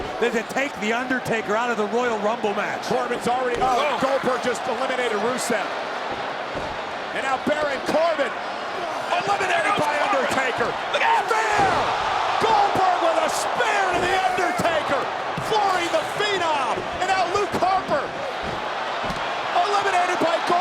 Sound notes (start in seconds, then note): 12.1 audience cheers